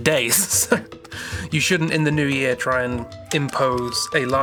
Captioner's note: laughs